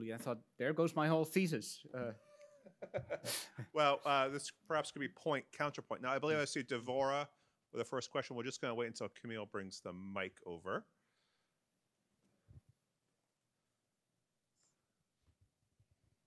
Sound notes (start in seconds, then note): 2.4 laughs